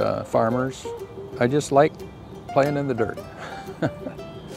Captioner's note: laughs